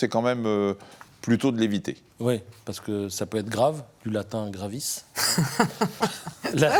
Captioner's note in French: rires